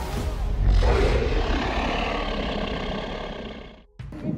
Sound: dinosaur roars

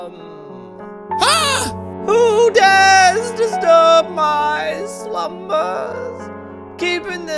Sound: Buddy yells in disgust

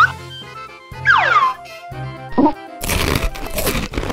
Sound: whistle sliding; exaggerated crunching

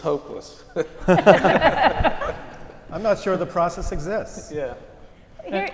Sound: laugh

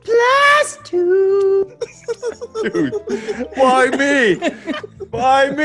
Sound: laugh

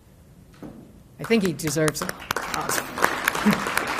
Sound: applause

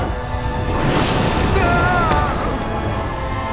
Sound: screaming

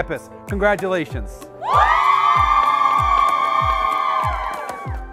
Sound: students cheer

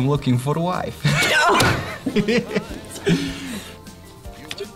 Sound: both laugh

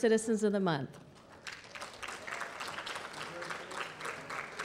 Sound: applause

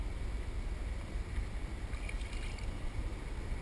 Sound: splash

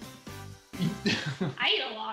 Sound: laughing

